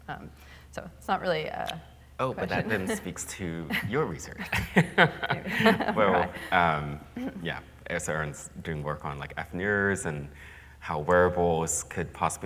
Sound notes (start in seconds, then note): 3.7 chuckles